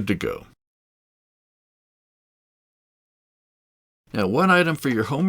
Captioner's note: silence